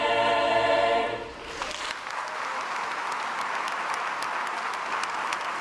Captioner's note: crowd applauds